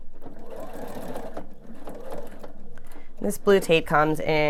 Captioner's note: machine whirring